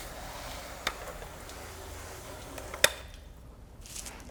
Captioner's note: clicking